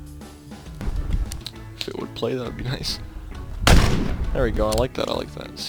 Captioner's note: gunfire